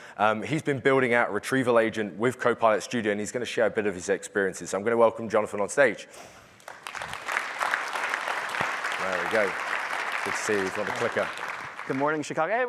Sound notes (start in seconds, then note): 8.3 applause